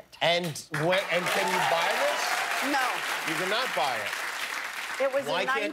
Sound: cheers and applause

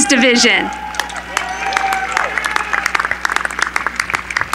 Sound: cheering

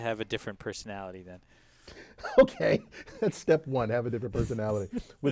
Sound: laugh

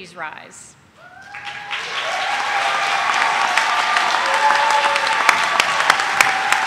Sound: audience cheering; audience applauding

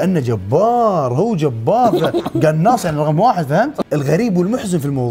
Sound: laughs

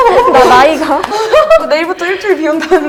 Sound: haha

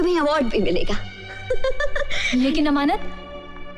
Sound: laughs

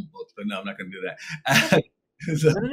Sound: chuckles

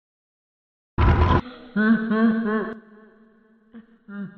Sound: Whirring, Toy Freddy's laugh; Toy Freddy's laugh in the distance

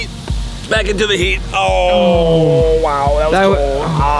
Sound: groans

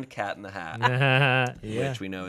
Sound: chuckling

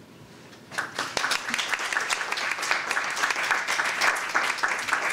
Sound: applause

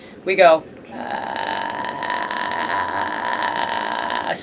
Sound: vocal fry

